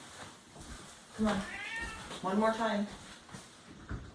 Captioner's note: meowing in background